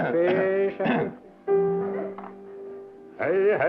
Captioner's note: singing; clears throat; singing